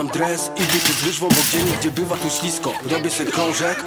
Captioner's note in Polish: złamany koszyk sounds